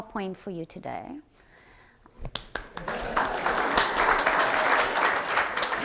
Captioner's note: audience applauds